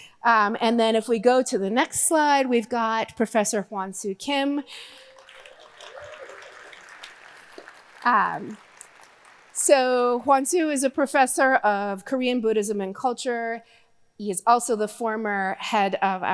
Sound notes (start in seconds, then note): 4.8 audience cheering; 4.8 audience applauding